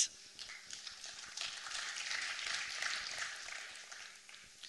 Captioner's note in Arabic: تصفيق